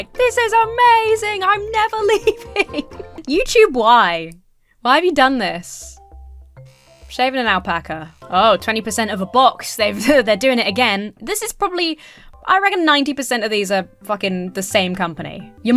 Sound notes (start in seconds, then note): 1.8 laughs; 6.5 razor buzzes; 9.9 chuckles